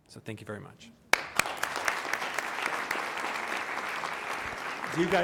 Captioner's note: applause